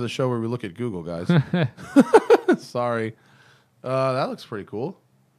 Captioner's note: laughter